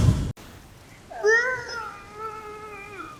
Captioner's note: groaning